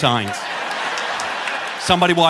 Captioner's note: audience laughing